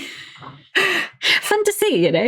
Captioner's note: laughing